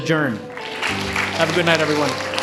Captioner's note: audience applauding